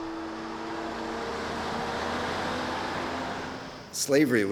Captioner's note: truck whooshing